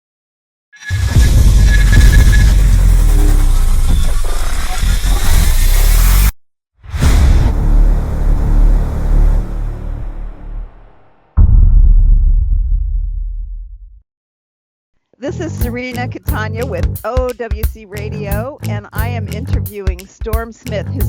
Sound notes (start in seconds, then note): 0.8 dynamic sound of spinning, whoosh, droning sound